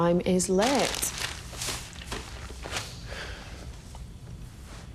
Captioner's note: bag crackling